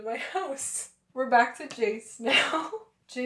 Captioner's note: laughter